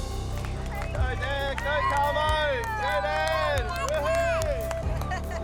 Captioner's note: cheering